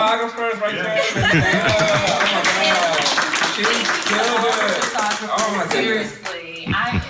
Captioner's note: group laughing and clapping